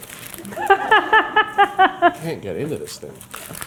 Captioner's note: laughing